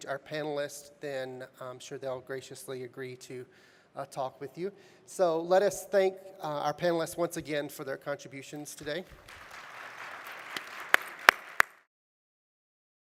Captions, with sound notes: our panelists, then I'm sure they'll graciously agree to talk with you, so let us thank our panelists once again for their contributions today. (audience applauding)